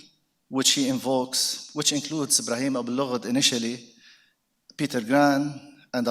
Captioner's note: speaks foreign language